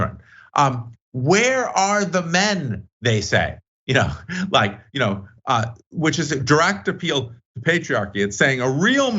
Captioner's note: laugh